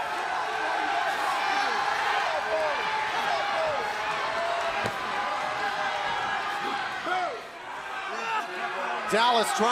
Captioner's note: crowd cheering